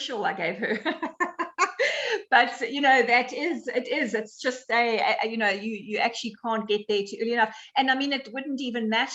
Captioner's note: laughs